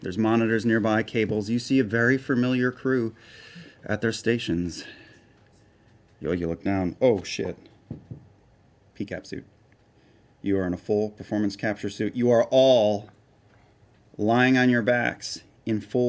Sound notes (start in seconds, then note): none